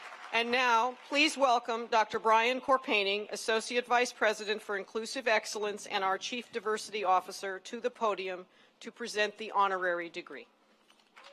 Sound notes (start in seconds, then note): 0.0 cheering and applause; 2.1 applause